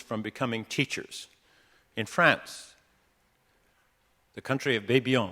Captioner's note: none